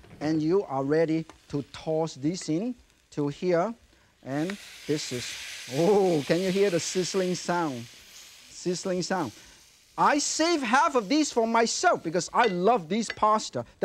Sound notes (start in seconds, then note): 4.3 ingredients sizzling; 12.3 plate clinks